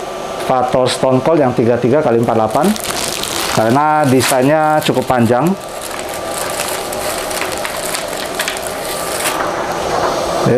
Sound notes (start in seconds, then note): 2.3 plastic sound; 9.5 PET film sound